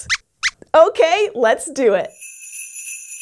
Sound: squeaks squeaks

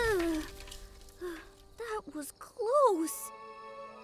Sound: Hogi shudders; ceiling rumbling; exhales

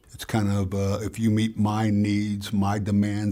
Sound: none

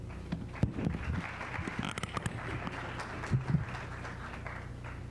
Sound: applause

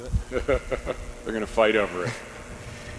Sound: laughing

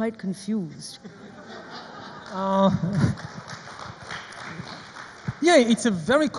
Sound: audience laughs and applauds

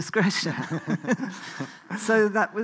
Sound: both laugh

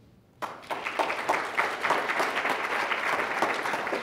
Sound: loud clapping

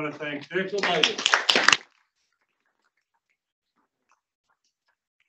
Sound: congregation applauds

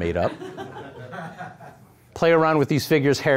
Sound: audience laughing

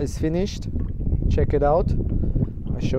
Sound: speaking foreign language; wind blowing

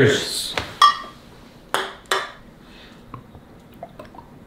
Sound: glass clanking

